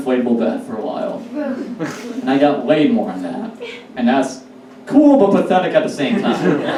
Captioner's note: audience Laughs